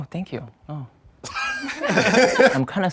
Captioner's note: all laughing